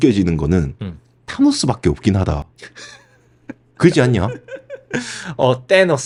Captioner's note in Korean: 웃음